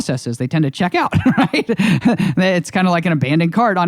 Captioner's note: laughs